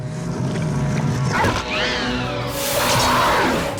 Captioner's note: shrieks